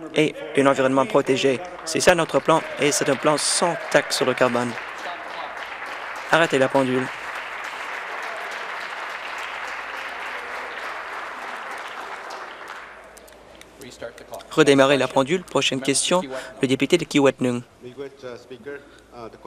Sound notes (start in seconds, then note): 5.1 cheering and Applause; 12.1 applause